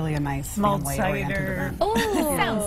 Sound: laughter

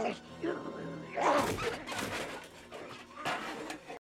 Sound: banging

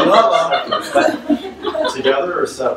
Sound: audience laughs

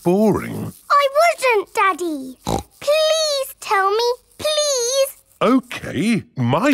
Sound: snorts

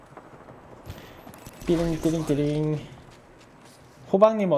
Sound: magical sound

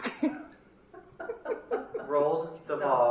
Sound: laughter

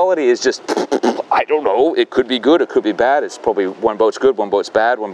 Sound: sputters

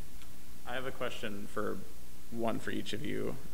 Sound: bold Voice

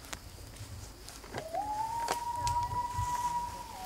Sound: loon Call

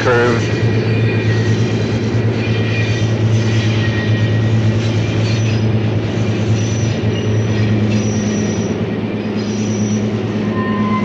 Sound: sound of the train moving

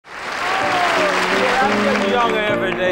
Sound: audience applauding

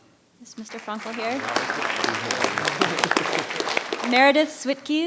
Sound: audience applauding

